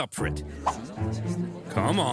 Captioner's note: Romans murmuring